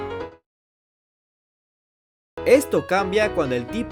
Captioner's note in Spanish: Silencio tenso